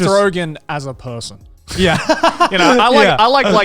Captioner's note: everyone laughs